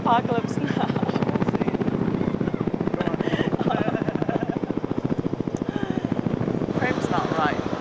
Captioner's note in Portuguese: helicópteros sobrevoando e risadas